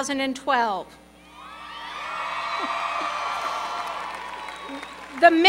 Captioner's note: cheering